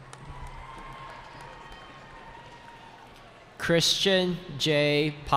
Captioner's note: cheering